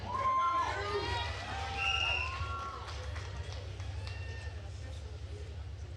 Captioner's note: attendees cheering and applauding